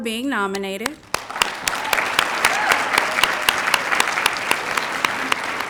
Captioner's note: cheers, applause